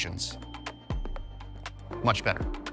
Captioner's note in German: Leises Klingeln